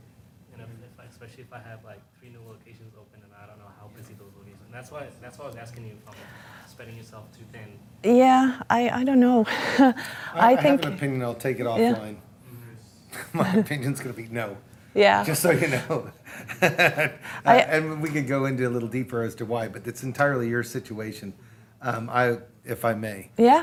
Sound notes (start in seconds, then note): 9.4 laughing; 16.3 laughing